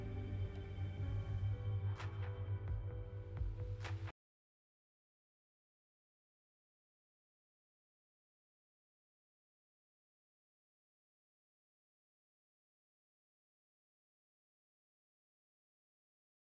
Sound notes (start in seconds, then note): 1.0 waves crashing